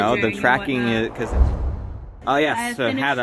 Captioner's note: whoosh